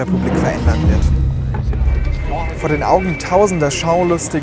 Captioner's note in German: Sirenen